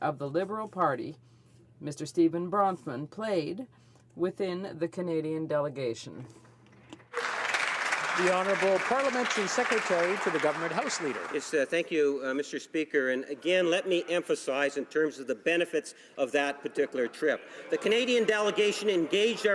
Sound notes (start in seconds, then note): 11.0 some Applause